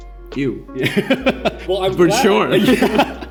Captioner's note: laughs